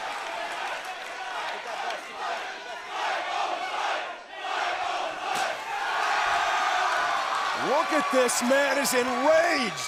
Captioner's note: crowd cheering